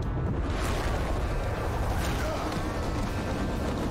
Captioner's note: grunting